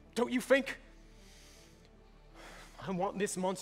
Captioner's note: deep breath